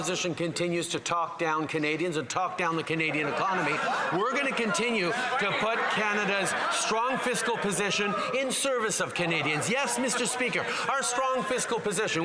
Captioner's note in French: voix de l'interprète